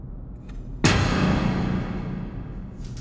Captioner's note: loud clank